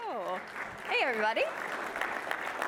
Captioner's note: applause